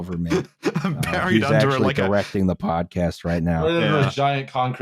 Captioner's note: laughing